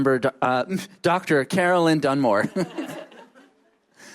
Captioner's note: laughter